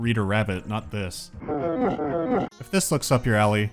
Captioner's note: beeboorat freaking out